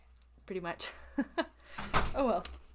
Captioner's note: door-closes; laughs